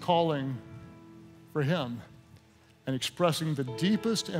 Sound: none

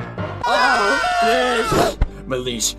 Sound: screaming

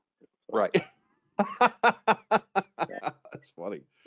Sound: laughs

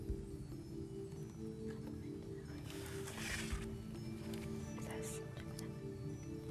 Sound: whispering

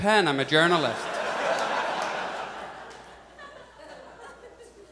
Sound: audience laughs

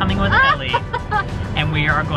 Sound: laughs

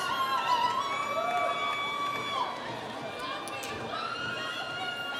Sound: audience cheering

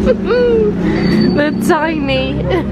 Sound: laughing

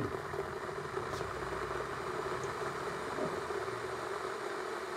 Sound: kettle rumbling

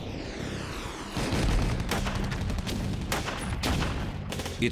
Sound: gunshots

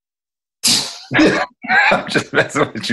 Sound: laughing

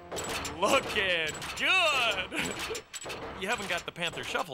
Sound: laughs

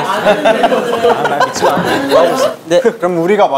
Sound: laughing

